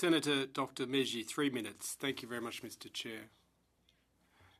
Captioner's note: speaking french